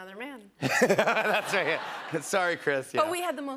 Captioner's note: laughs